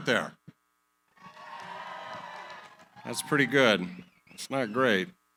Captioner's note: cheering